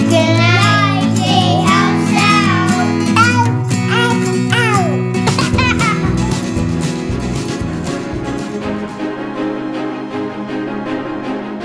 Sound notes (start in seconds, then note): 5.5 laughs; 6.6 lively music